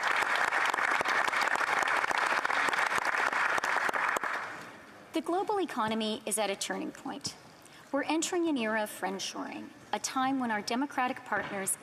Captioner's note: applause